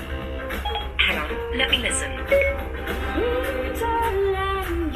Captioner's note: beeping